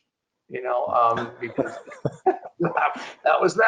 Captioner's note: chuckling